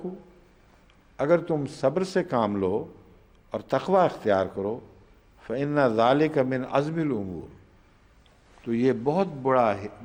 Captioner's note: Arabic; Arabic